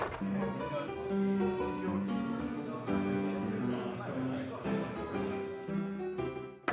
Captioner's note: background people chattering; melodic piano music